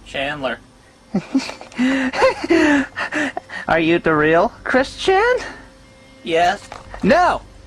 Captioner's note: maniacal laughter